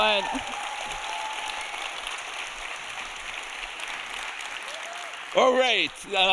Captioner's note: audience cheering; audience applauding